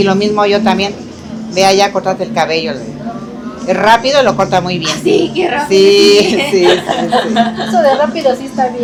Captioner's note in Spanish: risas